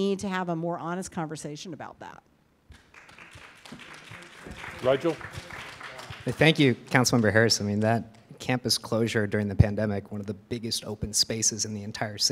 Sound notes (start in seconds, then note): 2.7 audience applauding